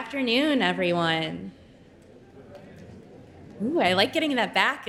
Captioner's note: audience chattering indistinctly